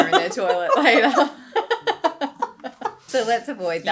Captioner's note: laughing